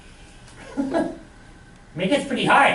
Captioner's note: laughs